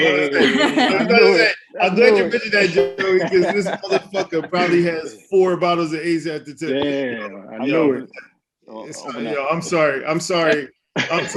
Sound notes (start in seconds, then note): 0.7 laughs